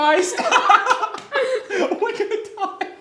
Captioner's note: laughing